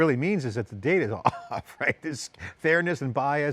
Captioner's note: laughs